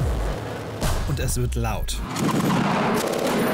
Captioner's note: engine noises, inaudible; gunshots; machine gun shots